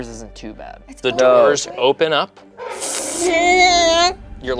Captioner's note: imitates creaking